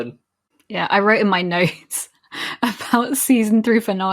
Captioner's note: laughing